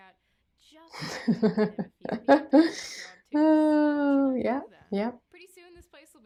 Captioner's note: laughter